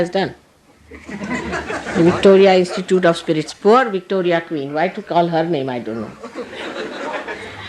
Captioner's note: laughter